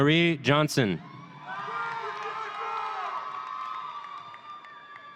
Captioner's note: audience cheering